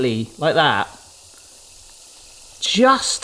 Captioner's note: oil sizzling